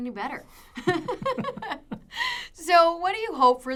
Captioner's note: laughing